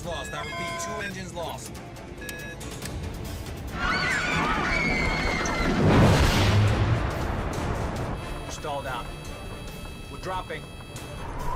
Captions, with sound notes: TWO ENGINES LOST. I REPEAT-- TWO ENGINES LOST. [SCREAMING] WE'RE STALLED OUT. WE'RE DROPPING.